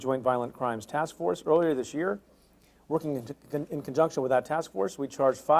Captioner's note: stutters